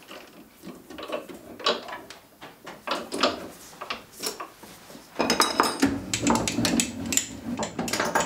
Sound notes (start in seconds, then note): 5.2 clattering